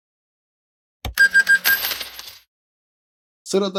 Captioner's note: service Sound